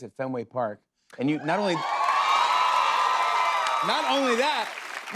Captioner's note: cheers and applause